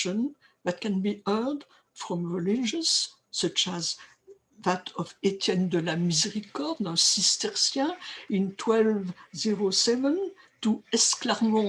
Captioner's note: french